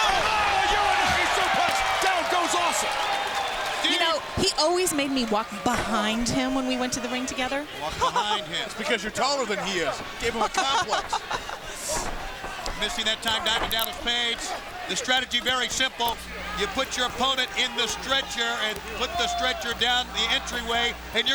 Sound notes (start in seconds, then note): 7.8 laughs; 10.4 laughs